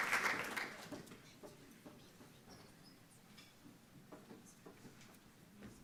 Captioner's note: footsteps clicking